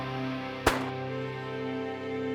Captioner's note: gun shot